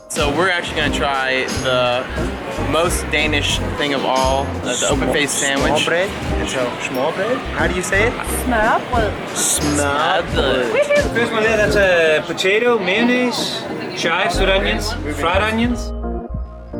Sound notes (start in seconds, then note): 10.0 with a terrible accent